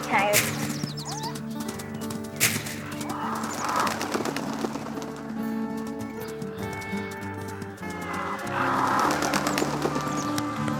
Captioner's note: Coyote Screaming Sounds